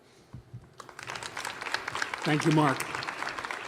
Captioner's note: applause